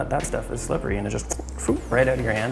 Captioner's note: whooshes